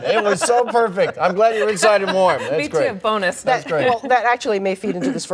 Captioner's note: laughter